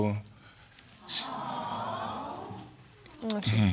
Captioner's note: audience cooing